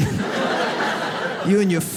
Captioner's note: audience laughs